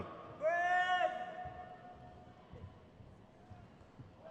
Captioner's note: person shouts